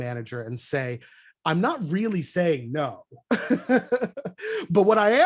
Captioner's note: laughter